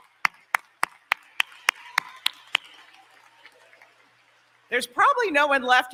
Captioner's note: applause